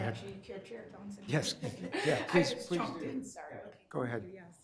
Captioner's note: laughs